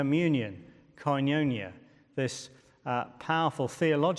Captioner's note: speaking in foreign language